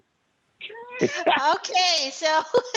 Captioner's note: laughter